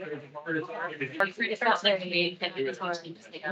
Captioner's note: attendees chattering